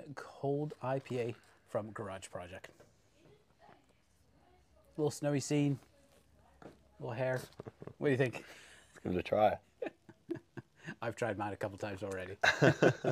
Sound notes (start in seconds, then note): 9.8 chuckles lightly